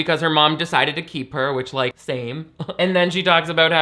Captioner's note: scoffing